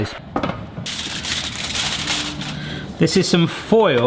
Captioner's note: foil crinkles